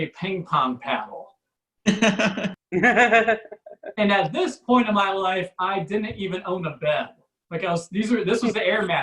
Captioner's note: audience Laughs